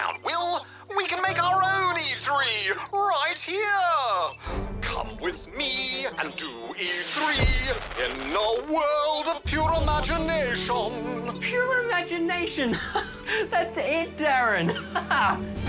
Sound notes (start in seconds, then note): 4.1 stirring music; 12.6 laughs